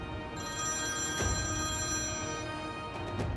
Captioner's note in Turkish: Telefon çalıyor